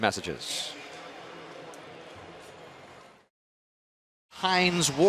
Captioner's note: pa announcement